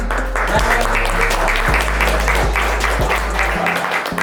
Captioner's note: audience clapping